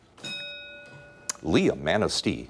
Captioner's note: ding